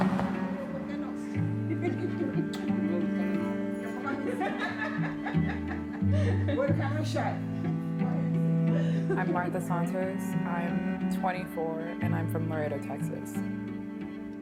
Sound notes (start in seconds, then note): 1.3 people chattering and laughing